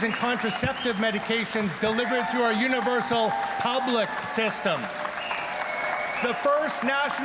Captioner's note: cheers and Applause